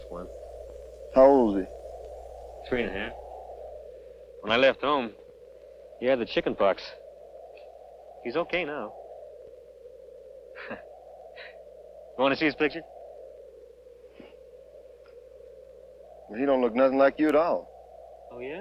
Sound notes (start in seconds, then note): 10.6 chuckling